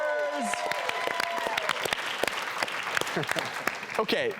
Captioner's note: cheering; clapping